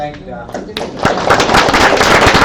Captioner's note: audience claps; speaker drowned out by audience clapping